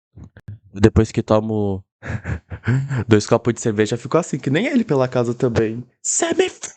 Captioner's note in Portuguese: risos